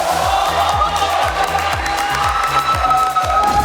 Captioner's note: clapping